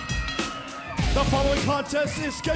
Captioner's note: bell ringing